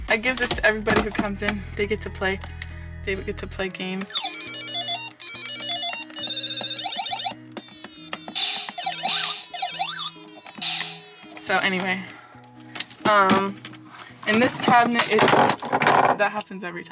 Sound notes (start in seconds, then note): 11.4 game noises